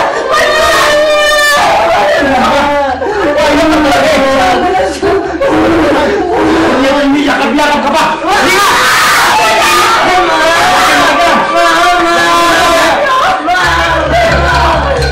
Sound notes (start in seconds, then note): 8.4 Emman shrieks